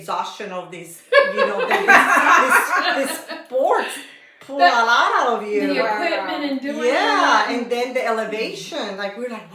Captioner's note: laughter